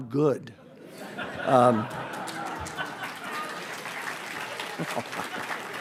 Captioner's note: audience applauds and laughs